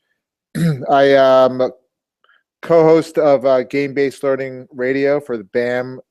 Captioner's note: cough